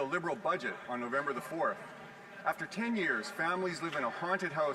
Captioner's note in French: voix de l'interprète